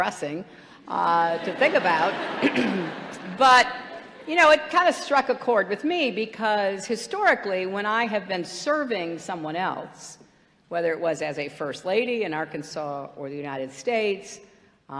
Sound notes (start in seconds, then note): 1.2 laughter